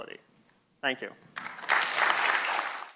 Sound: applause

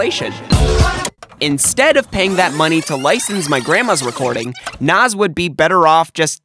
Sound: VHS rewind

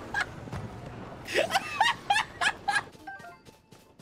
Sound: laughter

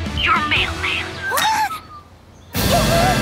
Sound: mailman whistling

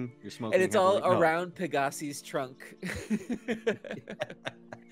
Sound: laughs

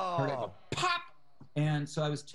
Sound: groan

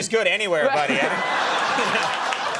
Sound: audience laughing and applauding; Conan O'Brien laughing sarcastically

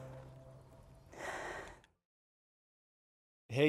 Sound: sighing

